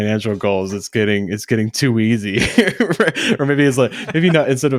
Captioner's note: laughs